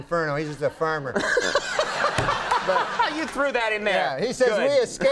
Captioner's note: Conan laughing